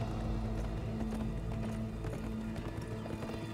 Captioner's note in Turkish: At nalı sesleri